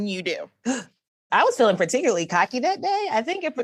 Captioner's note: gasp